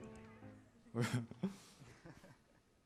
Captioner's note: laughs